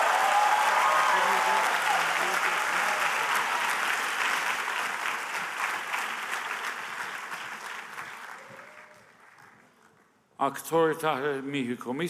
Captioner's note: applause